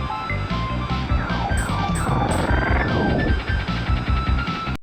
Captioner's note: laser blasting